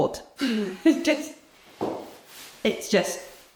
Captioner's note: woman laughs